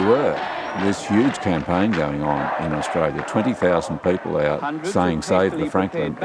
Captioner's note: protestors chanting